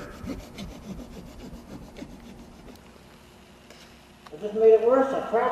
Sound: sawing drywall

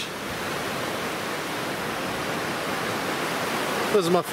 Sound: waves crashing

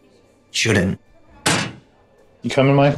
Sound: locker slams

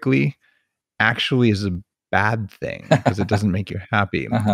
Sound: laughs

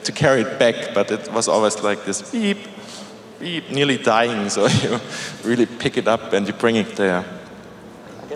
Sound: beeping sound

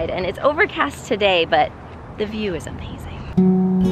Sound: none

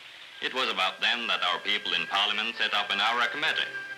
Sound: none

